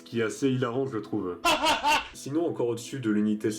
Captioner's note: laughs